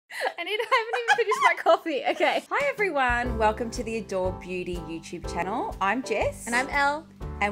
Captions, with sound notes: - I haven't even finished my coffee. (laughing) Okay. - Hi, everyone. Welcome to the Adore Beauty YouTube channel. I'm Jess. - And I'm Elle.